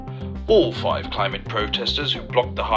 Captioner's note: radio news